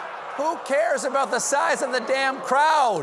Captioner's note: audience reacts